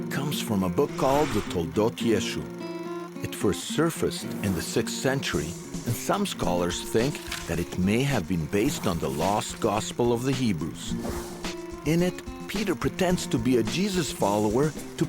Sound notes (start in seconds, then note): 6.8 papers rustling